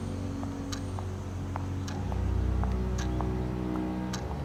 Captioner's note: footsteps clack